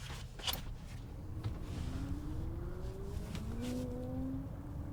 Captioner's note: traffic humming faintly